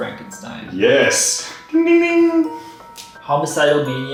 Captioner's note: makes ding sound